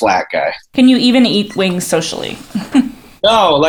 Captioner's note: laughs